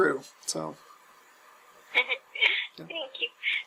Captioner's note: laugh